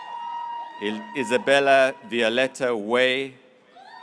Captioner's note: graduates cheering